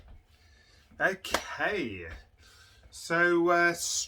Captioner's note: clapping